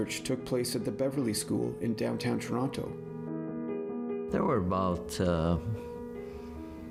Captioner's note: none